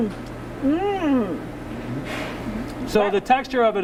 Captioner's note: exclaims